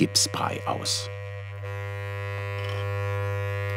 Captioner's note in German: Dumpfe Maschinengeräusche